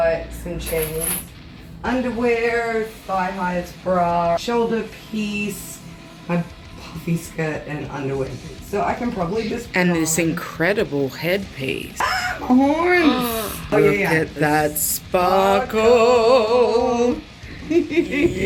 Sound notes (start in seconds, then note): 12.9 gasps